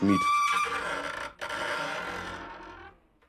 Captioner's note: creaking